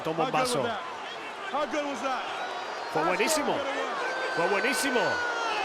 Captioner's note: applause